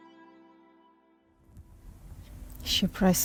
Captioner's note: grass rustling